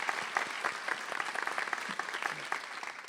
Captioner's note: applause